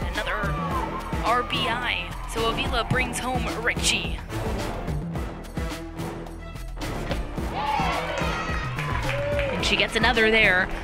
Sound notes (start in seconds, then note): 7.5 cheering